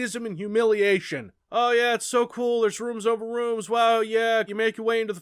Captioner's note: sarcastic voice